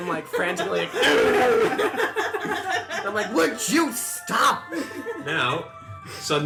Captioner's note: laugh